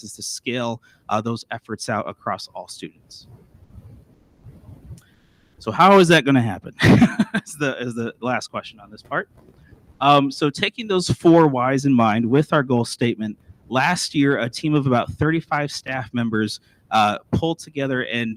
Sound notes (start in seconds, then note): 6.8 laughs